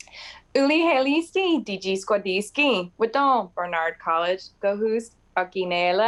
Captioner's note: woman speaks in foreign language